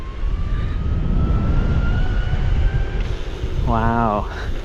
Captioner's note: wind whooshing